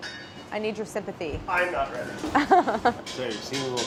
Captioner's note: laughs